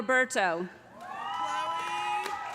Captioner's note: loud cheering